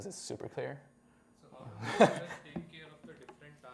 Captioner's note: laughter